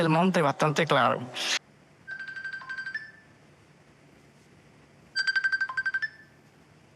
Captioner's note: phone ringing